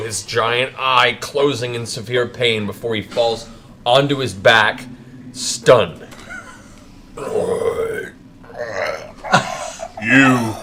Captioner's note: groans